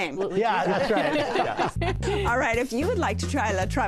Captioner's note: laughter